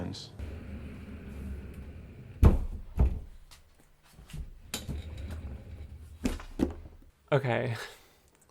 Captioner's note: wheeling, a thump